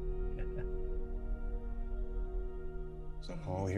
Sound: chuckles

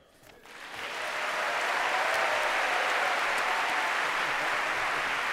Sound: cheers, applause

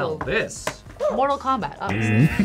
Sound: buzzer barks; buzzer

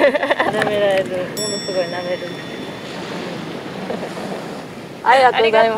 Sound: laughs

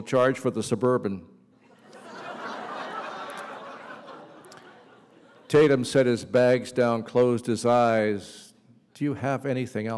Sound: laughter

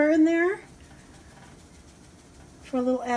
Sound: sprinkling sound

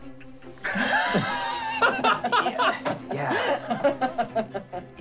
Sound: laughing

